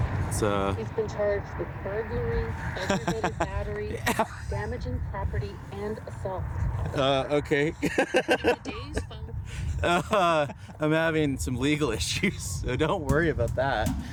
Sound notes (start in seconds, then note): 2.7 laughter; 7.8 laughter